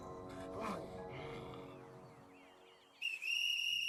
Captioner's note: whistle blows